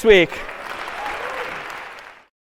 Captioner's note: аплодисменты